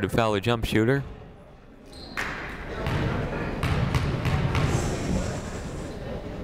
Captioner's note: people talking in the crowd